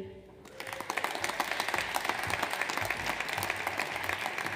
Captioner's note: audience applauds